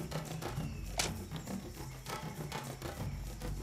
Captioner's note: sticks thud